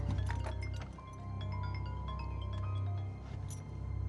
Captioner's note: phone ringing